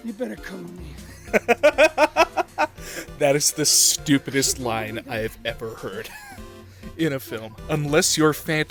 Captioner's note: laughter